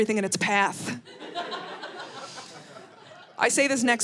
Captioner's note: audience laughing